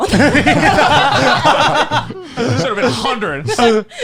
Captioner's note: laughing